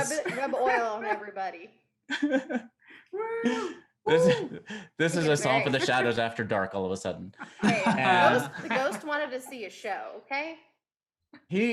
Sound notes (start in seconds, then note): 2.0 Auryn laughing; 7.3 all laughing